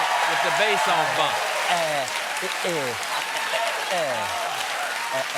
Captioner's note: laughter; applause